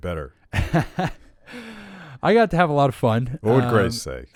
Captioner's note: laughs